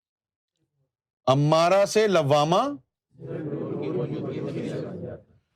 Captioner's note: audience repeats